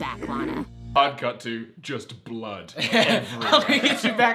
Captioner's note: laughs